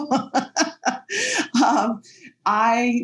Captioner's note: laughing